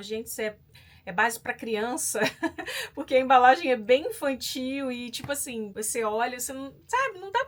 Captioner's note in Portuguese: risadas